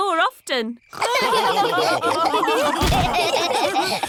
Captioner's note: all laughing